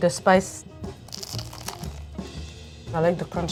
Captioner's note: sandwich crunching